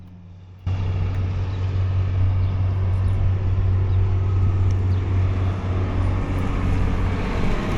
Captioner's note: engine revving